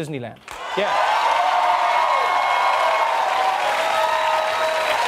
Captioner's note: audience cheering